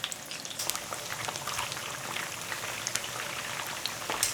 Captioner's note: oil sizzling